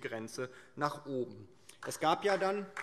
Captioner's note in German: Beifall DIE LINKE